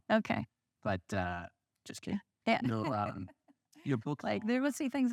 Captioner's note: laughs